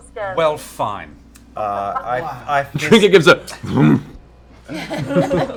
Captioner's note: grumpy grunt